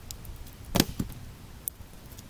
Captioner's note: more wood noises; wood noises